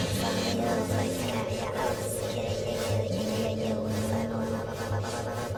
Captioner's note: mechanical sounds